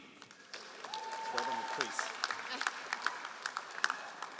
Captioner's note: all applauding